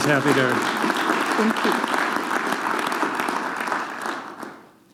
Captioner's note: audience clapping